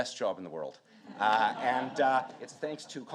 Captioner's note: audience laughing